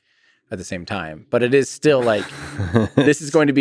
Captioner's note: Lex laughs